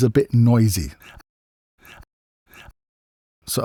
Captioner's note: breath